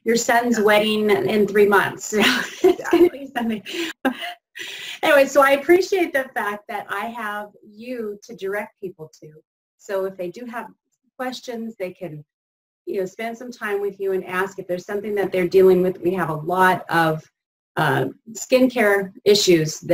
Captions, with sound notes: It's not for your son's wedding in three months. (laughing) Anyways, so I appreciate the fact that I have you to direct people to, so if they do have questions, they can spend some time with you and ask if there's something that they're dealing with. We have a lot of skincare issues